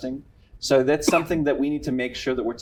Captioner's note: coughing